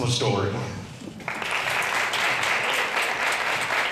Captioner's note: applause